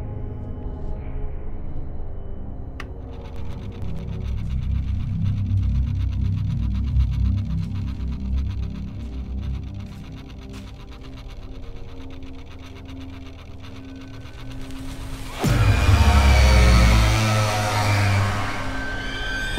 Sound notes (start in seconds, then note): 2.9 electricity buzzing; 2.9 switch flipping; 6.6 unsettling music continues; 10.5 electricity buzzing continues; 14.6 plastic ruffling; 15.7 ominous music